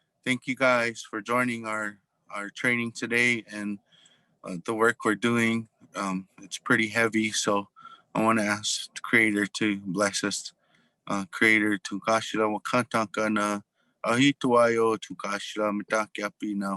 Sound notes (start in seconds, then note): 11.5 speaking in foreign language